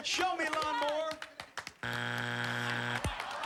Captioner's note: buzzer